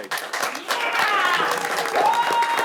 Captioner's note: audience cheers and applauds